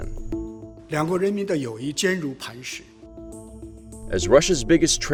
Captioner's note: speaking in foreign language